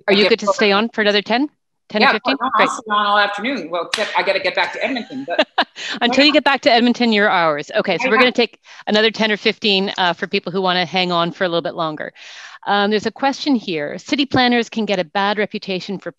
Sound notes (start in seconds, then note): 2.4 speaking faintly; 3.9 claps